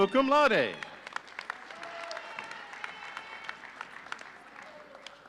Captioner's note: audience cheering